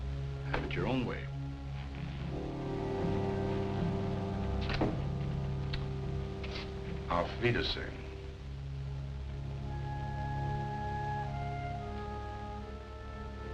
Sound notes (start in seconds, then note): 7.1 non-english speech